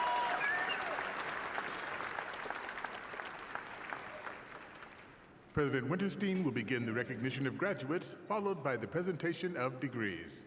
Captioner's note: applause